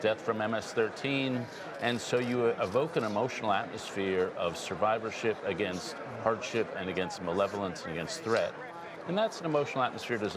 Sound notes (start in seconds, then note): none